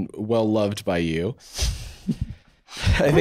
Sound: laughing

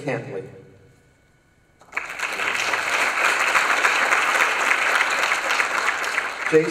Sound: applause

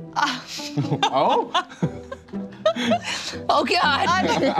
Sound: laughs

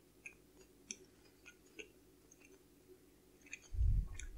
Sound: eating Noises

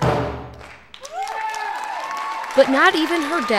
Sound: drum music stops; cheers and applause

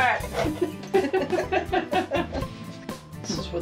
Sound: laughter

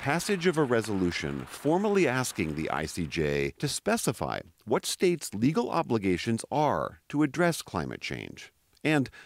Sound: applause

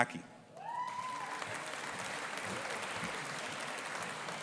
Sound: audience applauding

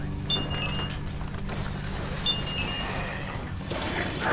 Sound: alarm beeps; creature growls

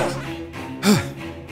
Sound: sighs

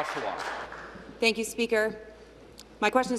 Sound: applause

